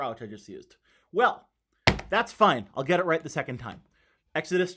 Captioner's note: slaps table